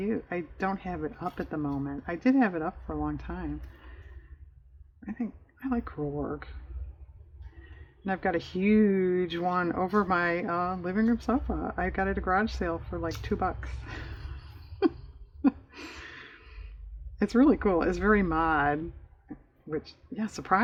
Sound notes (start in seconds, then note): 13.6 laughs